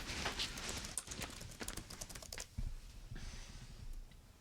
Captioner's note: keyboard clicks